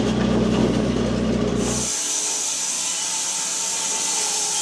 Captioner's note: saw buzzes